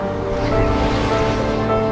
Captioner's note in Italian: Vento che soffia